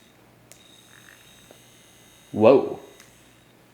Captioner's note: toy whirring